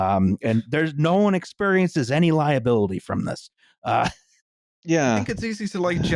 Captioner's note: laughs wryly